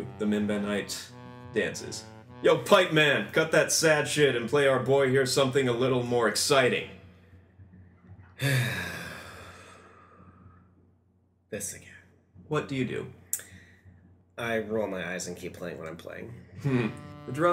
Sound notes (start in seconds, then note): 8.4 sighs